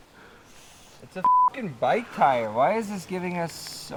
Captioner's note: beep